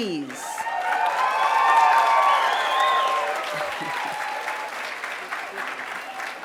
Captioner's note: applause